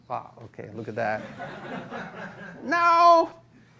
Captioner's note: laughter